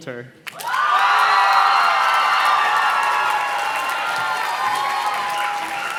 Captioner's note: audience cheers and claps